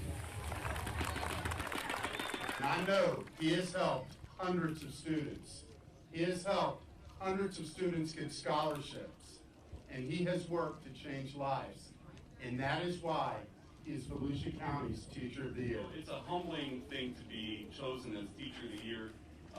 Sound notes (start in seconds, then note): 0.0 people applauding